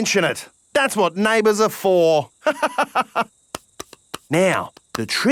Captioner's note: laughs